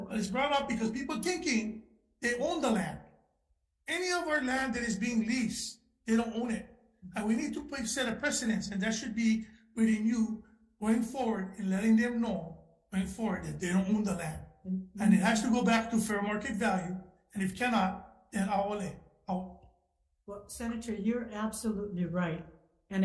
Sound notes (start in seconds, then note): 18.6 murmurs